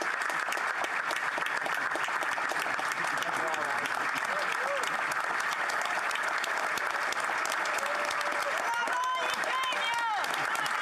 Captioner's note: applause